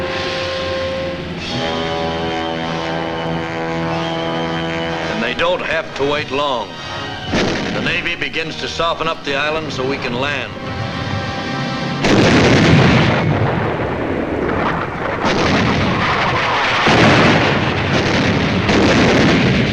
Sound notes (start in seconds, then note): 1.9 dramatic orchestral music; 12.0 guns blasting